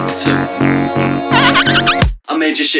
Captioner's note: fart